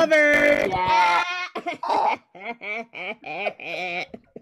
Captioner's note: all laughing